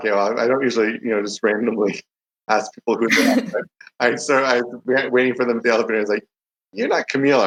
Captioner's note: both giggle